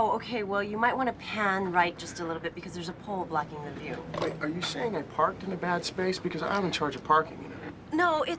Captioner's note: none